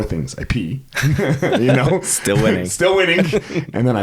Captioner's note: laughs